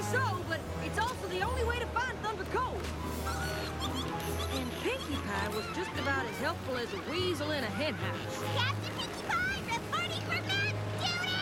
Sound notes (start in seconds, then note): 3.2 giggling